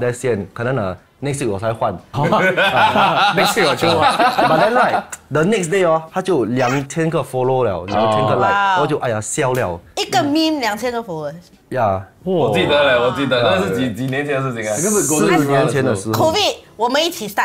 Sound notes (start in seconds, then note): 2.3 laughs